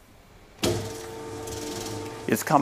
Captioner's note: whirring